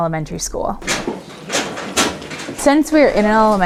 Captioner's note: lockers clanging